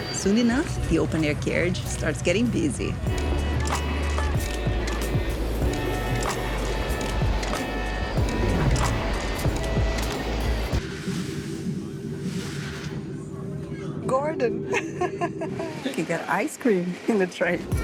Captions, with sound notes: - Soon enough, the open air carriage starts getting busy. Gordon! [Laughing] You can get ice cream in the train.